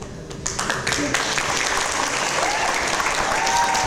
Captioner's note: audience applause